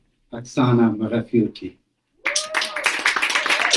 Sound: clapping 56.16

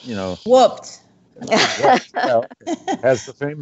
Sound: laughs

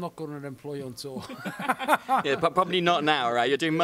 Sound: laughs

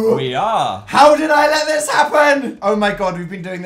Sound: yells

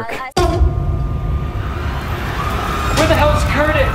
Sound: fire alarm blaring

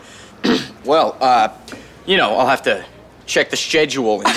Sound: deeper voice

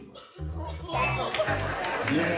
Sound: laughter

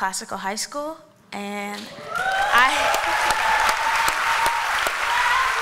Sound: applause

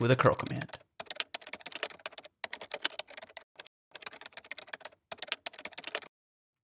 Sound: frantic typing noises

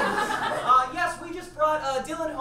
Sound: audience laughs

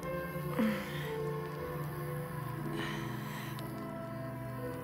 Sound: Brigit grunting

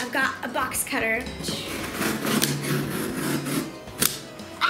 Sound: tape ripping

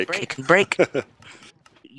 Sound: laughs

